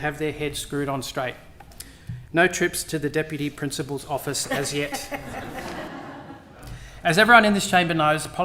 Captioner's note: laughter